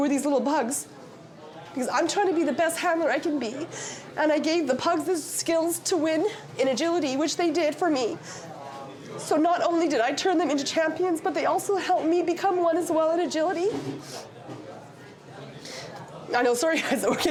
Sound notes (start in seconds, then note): 14.2 sniffles; 16.8 laughs